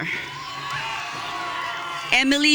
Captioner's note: audience cheering